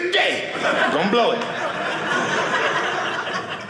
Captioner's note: audience laughing